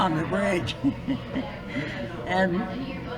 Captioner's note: laughs